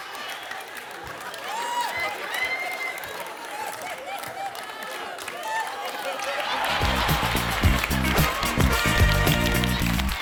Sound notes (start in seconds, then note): 3.0 laughter and applause; 6.6 upbeat music